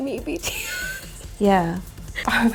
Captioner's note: laughs